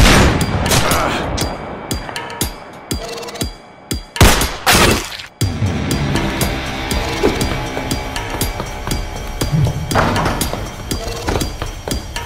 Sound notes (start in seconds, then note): 0.8 Ascarr grunts; 4.2 gunshot